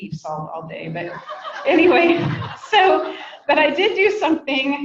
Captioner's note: people laugh